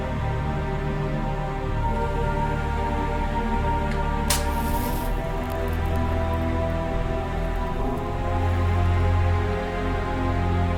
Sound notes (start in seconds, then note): 3.9 lighting a match